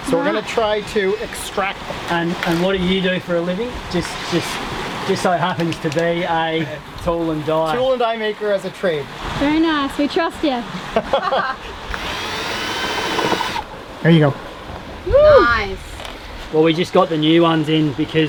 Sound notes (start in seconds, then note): 11.8 whirring